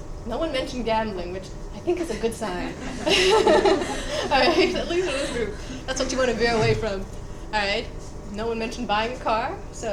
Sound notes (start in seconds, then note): 2.7 students laughing